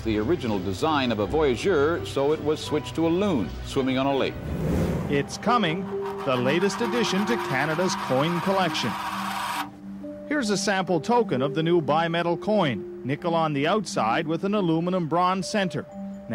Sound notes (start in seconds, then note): none